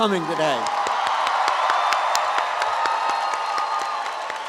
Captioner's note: audience applauds